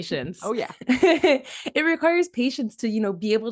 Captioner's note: chuckles